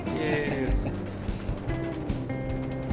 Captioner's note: laughs